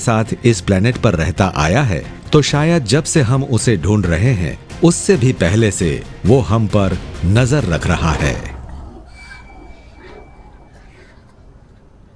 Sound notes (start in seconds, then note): 7.6 heavy breathing; 8.3 eerie music